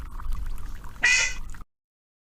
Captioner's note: quack